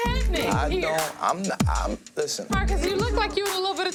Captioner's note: stutters